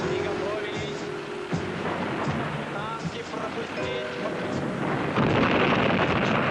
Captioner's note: soldier speaking in foreign language; explosions booming